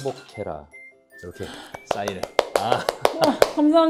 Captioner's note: applause